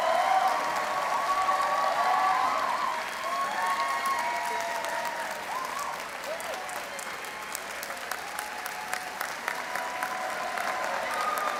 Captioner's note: cheers and Applause